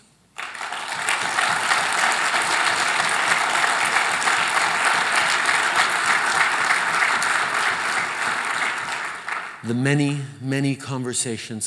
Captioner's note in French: Applaudissements